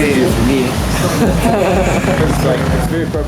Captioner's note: laughing